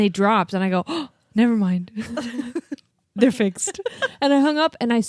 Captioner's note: gasps; laughs